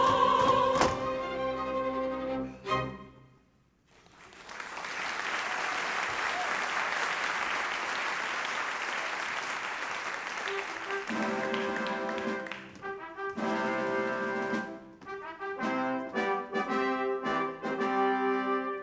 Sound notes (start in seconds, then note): 3.9 applause; 13.2 fanfare